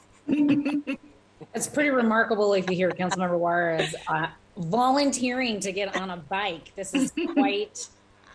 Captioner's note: laughter